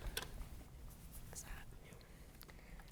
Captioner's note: contestants whispering